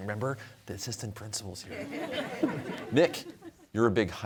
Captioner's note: in stage whisper; audience chuckling